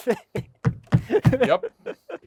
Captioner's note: speaker laughing